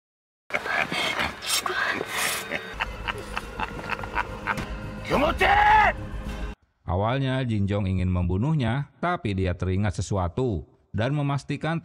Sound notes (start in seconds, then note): 2.2 laughs